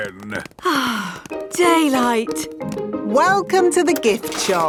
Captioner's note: sighs